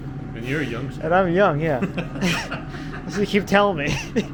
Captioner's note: laughing